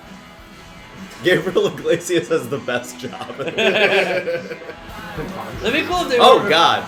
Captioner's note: laughter